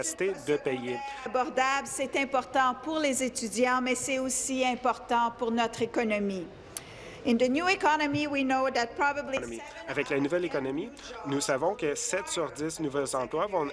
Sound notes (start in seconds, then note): 3.6 speaking in French